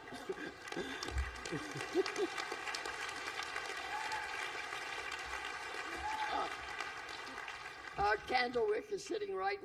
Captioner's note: laughter and applause